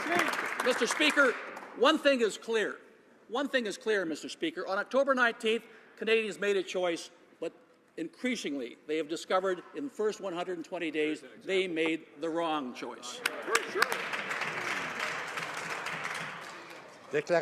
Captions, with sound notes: PROVINCE, DOES NOT STAND UP FOR ENERGY EAST. [Some Applause] MR. SPEAKER, ONE THING IS CLEAR, ONE THING IS CLEAR, MR. SPEAKER. ON OCTOBER 19th, CANADIANS MADE A CHOICE, BUT INCREASINGLY, THEY HAVE DISCOVERED IN THE FIRST 120 DAYS THEY MADE THE WRONG CHOICE.